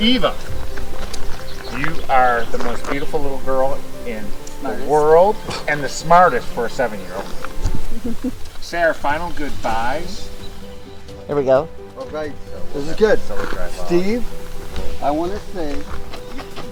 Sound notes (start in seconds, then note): 7.8 chuckles; 10.2 bright music